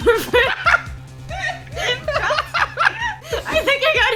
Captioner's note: laughter